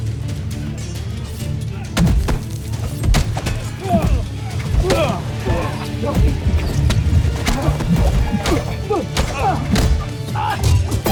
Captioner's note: intense music playing; grunting & groaning; thumping & thudding; growling & grunting; weapons clanging & swishing